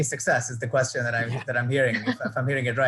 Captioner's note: laughing